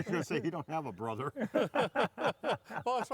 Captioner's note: laughter